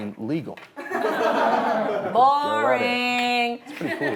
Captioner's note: laughing